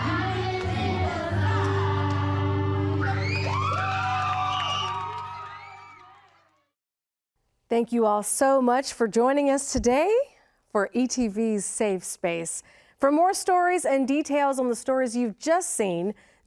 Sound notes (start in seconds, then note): 0.0 song concludes; 2.7 cheers and applause